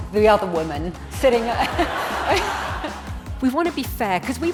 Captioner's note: audience laughing